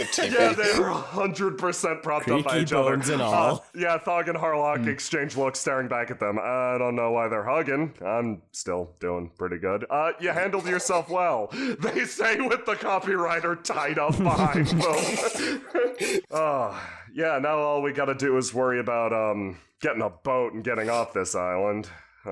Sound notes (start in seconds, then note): 14.0 laugh; 15.3 sighs